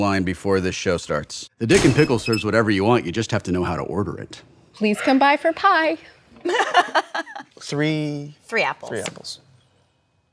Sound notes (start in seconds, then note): 6.4 laughing